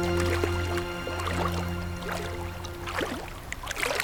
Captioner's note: water splashing